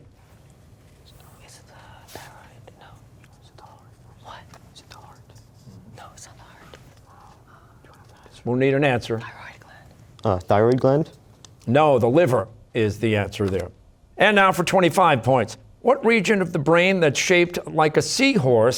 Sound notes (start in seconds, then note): 0.3 whispering